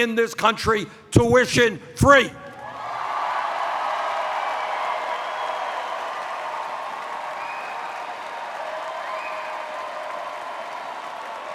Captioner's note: cheers